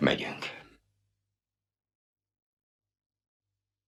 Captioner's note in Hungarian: csend